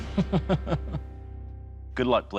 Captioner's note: laughs